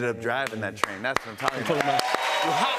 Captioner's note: cheers and applause